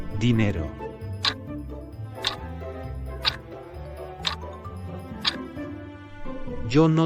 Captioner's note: FX - Clock Tick